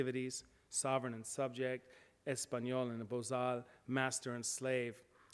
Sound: speaks foreign language

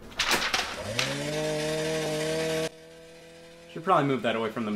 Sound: shredder shredding

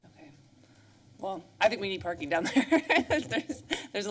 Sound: laughs

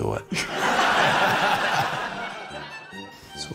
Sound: laughter

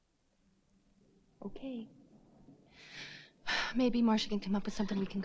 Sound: sighs

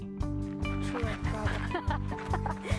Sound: chatting, laughter

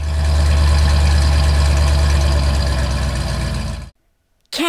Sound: engine sound

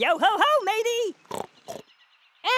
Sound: oinks

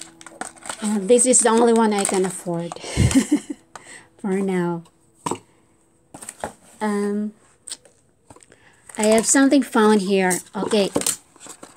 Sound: laughs

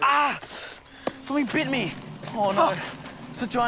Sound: yells

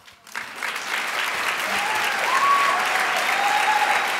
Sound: crowd applauds

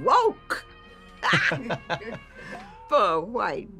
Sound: Mrs. Webb and Keith laughing

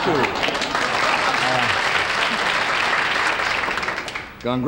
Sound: audience clapping

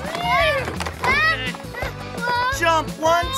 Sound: shouting

